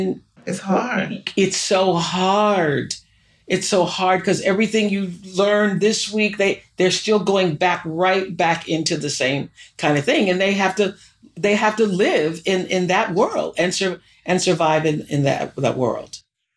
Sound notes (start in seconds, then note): none